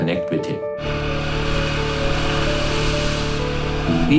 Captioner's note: loud engine noise